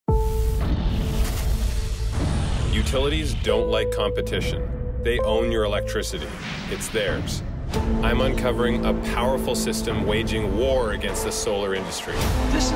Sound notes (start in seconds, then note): 1.0 dramatic music; 1.9 thunder bangs